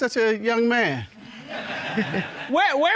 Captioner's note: audience laughing